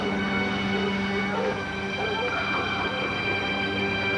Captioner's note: dogs bark